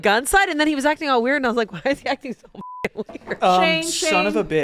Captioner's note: beep